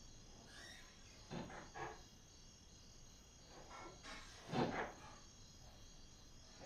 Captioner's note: objects clattering distantly